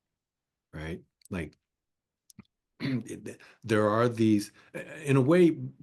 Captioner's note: cough